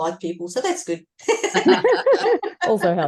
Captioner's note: everyone is laughing